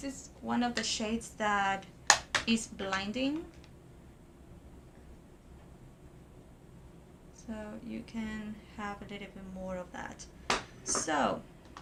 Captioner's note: pop